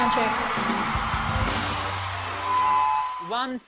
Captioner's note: audience cheering